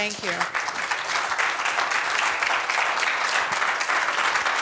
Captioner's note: audience applauds